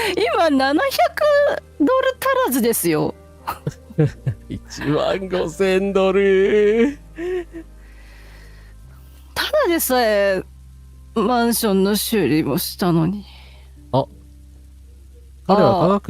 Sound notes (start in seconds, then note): 3.4 laughter